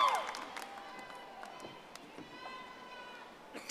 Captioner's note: audience applauding